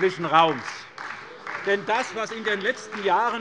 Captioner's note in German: Beifall bei der SPD